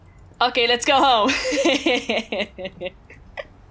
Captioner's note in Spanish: se ríe